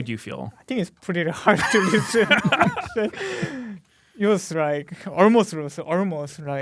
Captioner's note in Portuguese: risos